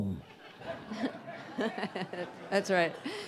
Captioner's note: audience laughing